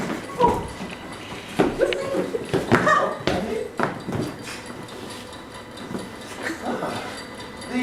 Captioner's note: ticking